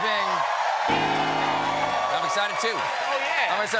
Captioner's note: cheers and applause; piano riff